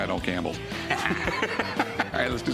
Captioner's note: laughs